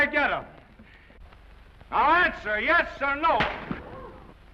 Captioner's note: crack; audience gasps